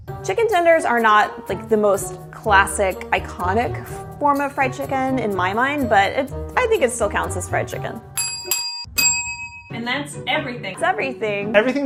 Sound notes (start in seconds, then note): 8.1 bells dinging